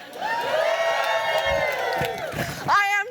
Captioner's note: louder cheers